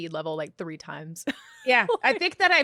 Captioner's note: laughs